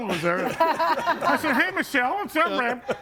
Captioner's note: group laughs